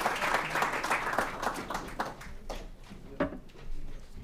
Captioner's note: applause